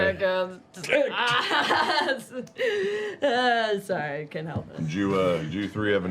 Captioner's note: laughter